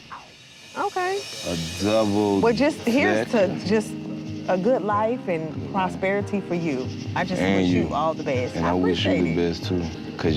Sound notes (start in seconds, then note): 1.1 warm chill music; 4.3 crickets chirping